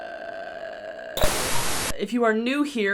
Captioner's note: static crackling